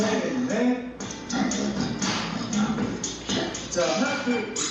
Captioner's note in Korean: 슬로우 처리된 음성